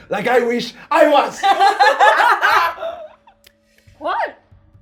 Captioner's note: laughing